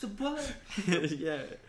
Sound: laughs

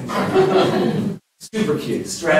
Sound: laughter

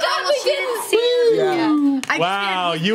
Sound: overlapping chatter

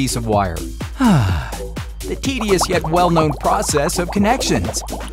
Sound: sigh

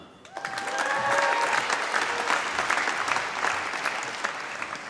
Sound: applause

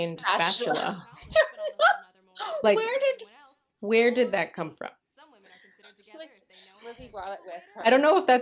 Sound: laughter

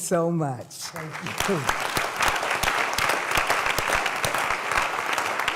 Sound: applause

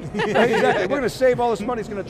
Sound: colleagues laughing

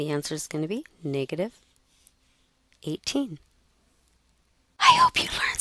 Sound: whispering

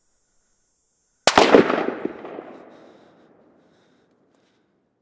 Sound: gunshot echos nearby

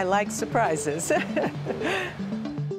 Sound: laughs; upbeat music

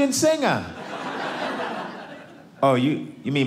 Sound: audience laughing

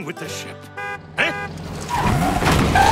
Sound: honking

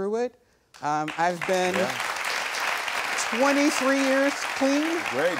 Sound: audience applauds

